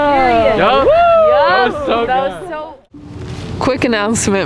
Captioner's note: crowd cheering and chattering